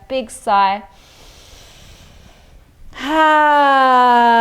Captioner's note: inhales deeply